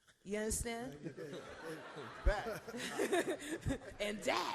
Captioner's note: all laugh